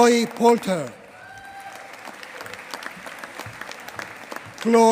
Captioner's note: applause